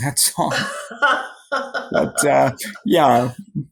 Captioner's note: laughs